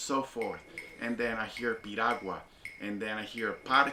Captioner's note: speaking Spanish